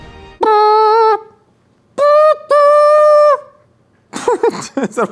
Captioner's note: imitates bagpipes